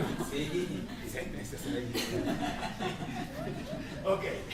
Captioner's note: laughter